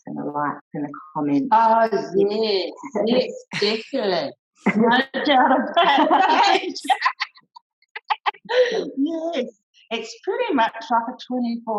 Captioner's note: laughter